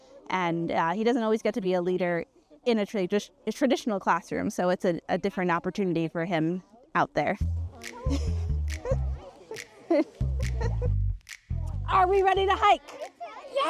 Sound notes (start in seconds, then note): 7.8 chuckles